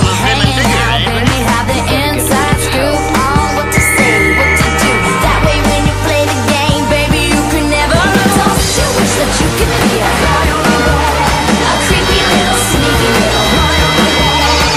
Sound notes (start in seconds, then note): 2.8 Bric blows whistle for help